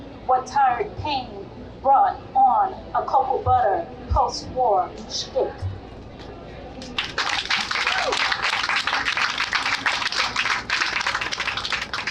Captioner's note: applause